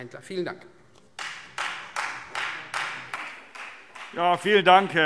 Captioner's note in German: Beifall Freie Demokraten